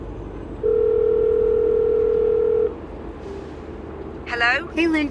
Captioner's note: phone rings